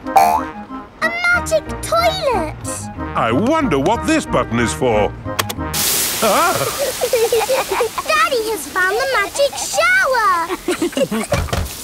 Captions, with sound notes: A magic toilet! I wonder what this button is for. (LAUGHING) Daddy has found the magic shower!